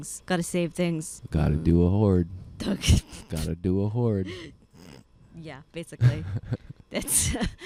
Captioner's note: laughing